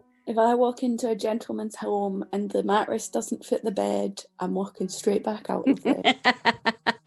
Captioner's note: laughs